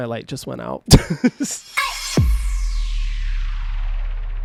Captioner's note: laughing